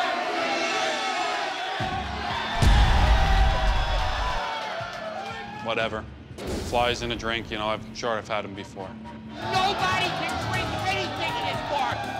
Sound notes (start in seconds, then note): 3.0 patrons applaud